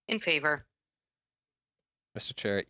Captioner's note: speaking French